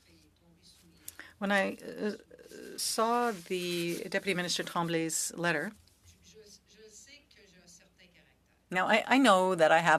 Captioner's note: speaking French